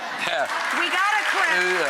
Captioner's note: applause